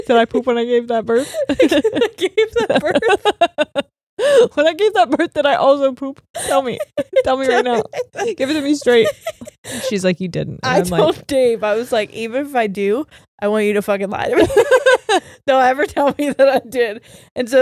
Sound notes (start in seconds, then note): 1.3 both laugh